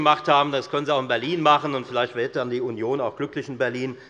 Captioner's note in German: none